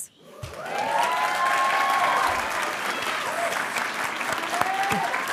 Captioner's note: audience cheering and applauding